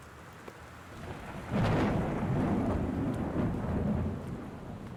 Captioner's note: thunder